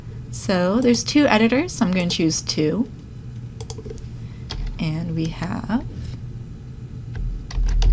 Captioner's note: typing